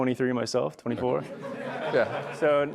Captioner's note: audience laughs